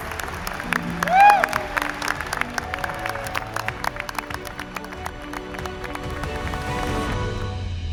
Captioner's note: applause